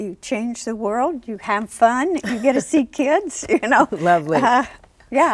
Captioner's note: laughs